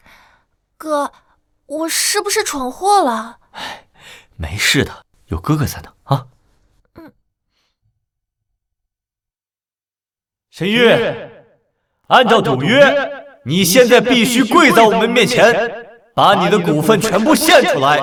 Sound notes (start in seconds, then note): 5.8 sighs softly